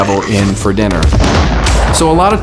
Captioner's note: bomb explodes